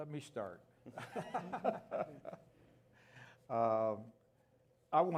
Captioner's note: chuckling